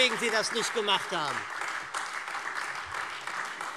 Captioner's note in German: Beifall SPD